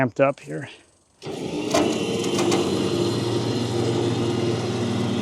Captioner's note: machinery humming